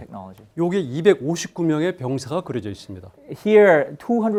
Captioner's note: speaking in Korean